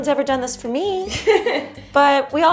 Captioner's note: laughing